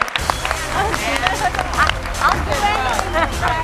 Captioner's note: audience and panelists applauding; faintly speaking; upbeat music